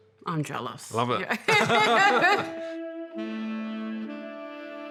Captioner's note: both laugh